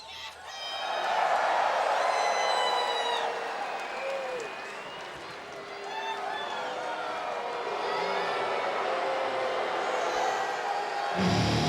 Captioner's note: applause